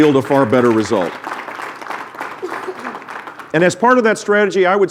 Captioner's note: applause